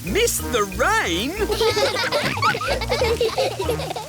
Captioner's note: all laughing